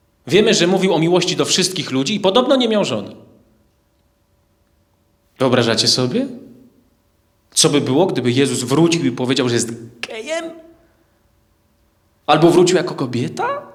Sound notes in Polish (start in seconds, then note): none